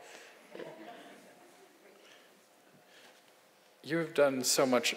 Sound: audience laughs

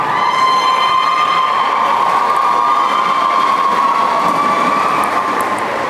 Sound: applause

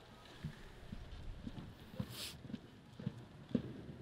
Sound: none

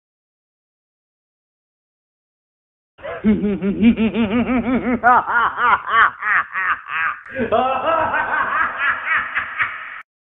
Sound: evil laughter

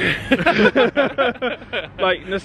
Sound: friends laugh

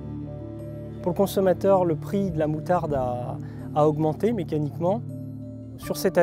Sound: speaking in foreign language

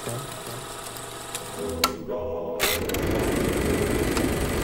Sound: projector clicking

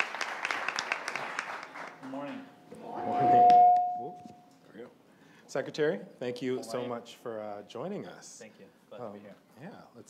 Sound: applause

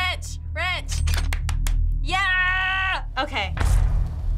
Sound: claps

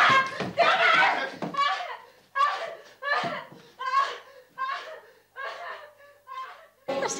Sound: Sandra screams; Sandra cries

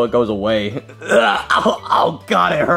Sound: Mario groaning

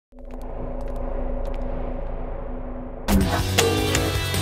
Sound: footsteps approaching

